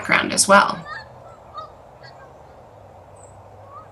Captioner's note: birds cawing